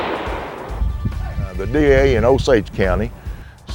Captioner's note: gun shot